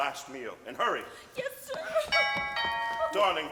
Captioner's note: doorbell rings